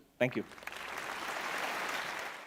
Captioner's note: applause